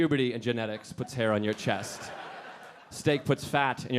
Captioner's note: audience laughing